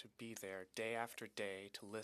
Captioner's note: speaking French